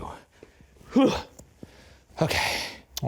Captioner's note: grunting